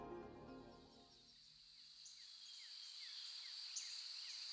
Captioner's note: birds chirping